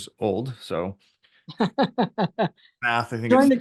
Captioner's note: laughs